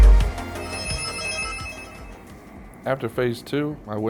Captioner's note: letters chiming